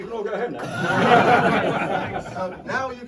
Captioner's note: crowd laughs